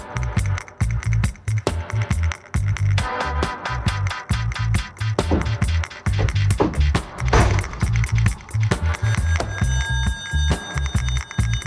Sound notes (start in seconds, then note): 6.0 footsteps thumping; 6.1 door thudding; 8.6 upbeat music